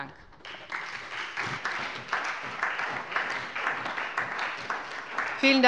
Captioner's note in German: Beifall bei der SPD